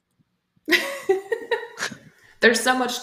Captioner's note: laughter